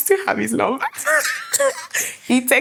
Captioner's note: laughing